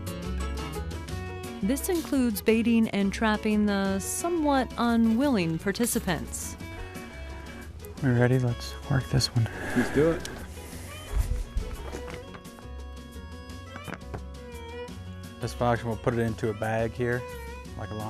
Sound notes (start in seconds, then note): 9.4 sighs